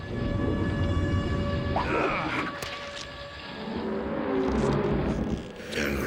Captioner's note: grunting